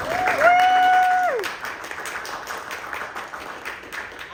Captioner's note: applause